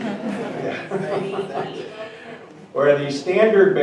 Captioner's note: audience mumbling